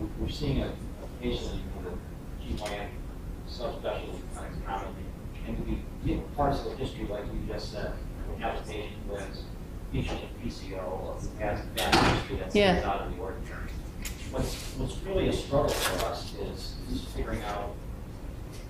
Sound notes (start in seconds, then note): 2.4 voice fades; 4.7 voice fades; 11.6 thuds